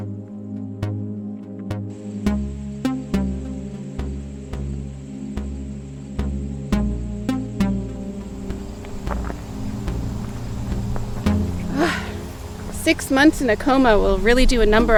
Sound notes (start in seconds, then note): 9.5 gravel crunching